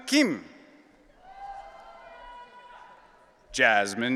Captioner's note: audience cheering